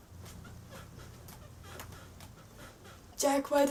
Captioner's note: squeaking springs in my bed